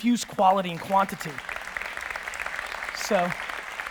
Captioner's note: audience applause